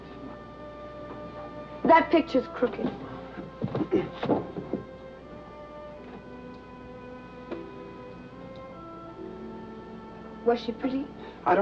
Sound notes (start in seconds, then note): 3.8 Peter clears throat